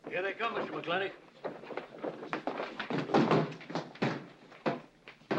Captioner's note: bodies bustling through the door